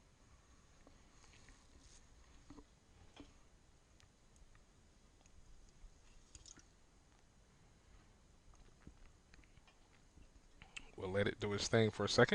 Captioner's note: silence